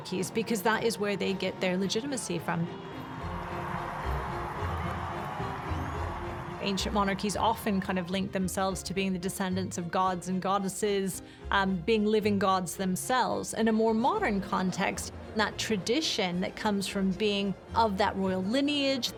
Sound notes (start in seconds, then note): 3.0 crowd cheering